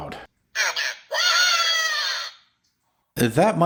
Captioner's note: robot Screaming